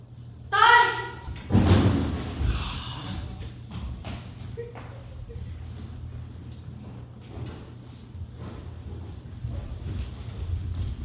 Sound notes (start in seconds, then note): 1.3 loud banging